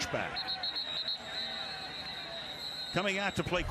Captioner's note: whistle